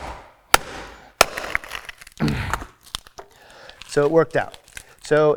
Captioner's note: hammer banging; rock crunching